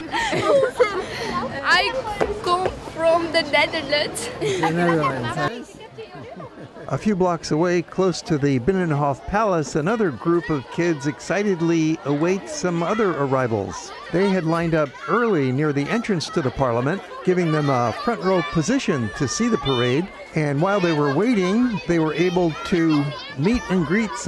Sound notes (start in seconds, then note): 0.0 laughter; 3.9 laughs